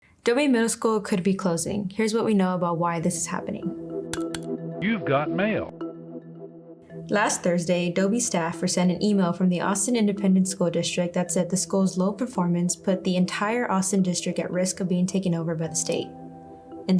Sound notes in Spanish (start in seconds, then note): 4.9 Voz de IA